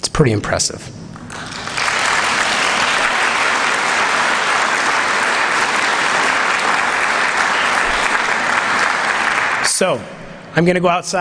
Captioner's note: applause